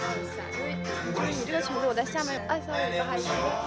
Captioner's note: rapid Chinese conversation